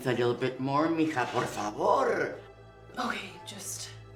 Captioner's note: Spanish